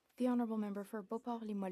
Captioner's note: speaking FRENCH